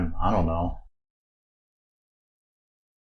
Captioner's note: silence